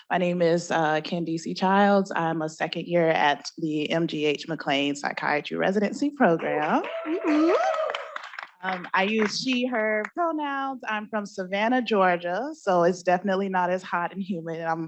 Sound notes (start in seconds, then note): 6.4 applause